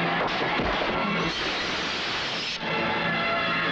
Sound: glass shatters

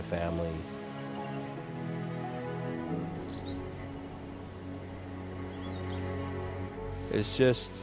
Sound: bird and wind noises

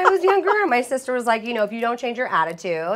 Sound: laughter

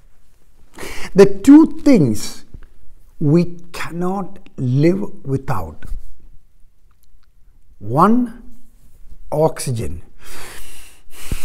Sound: inhaling

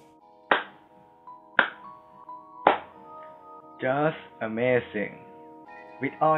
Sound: clap clap clap

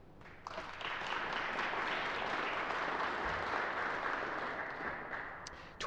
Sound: applause

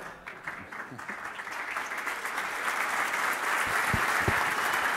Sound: applause

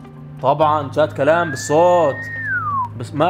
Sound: whistling

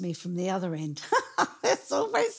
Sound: laughing

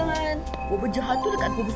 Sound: beeping continues

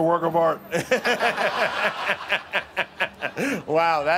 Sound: laughter

